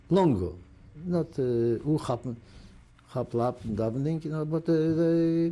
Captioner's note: non-english